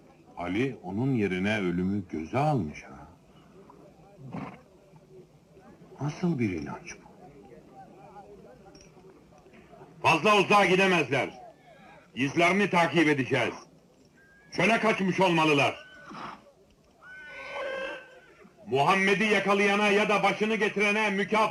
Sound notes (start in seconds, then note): 17.0 horse whinnying